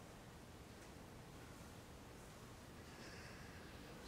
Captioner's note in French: none